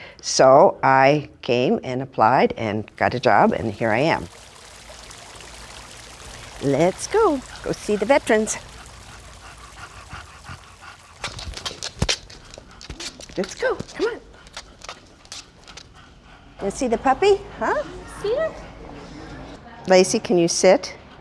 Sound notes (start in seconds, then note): 4.5 water running; 8.9 dog panting